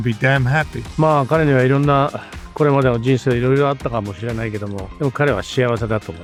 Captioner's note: speaking in Japanese